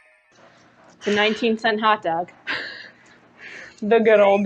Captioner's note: laugh